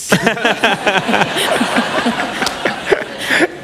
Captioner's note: laughter